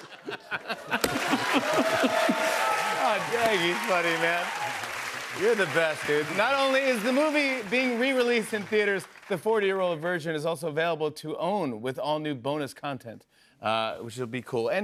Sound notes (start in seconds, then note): 0.7 cheers and applause